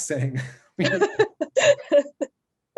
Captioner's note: laughter